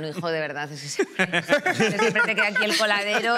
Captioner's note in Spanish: Risas